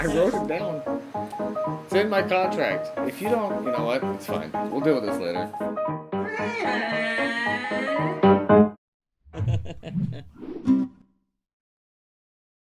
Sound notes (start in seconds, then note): 6.4 Godzilla sound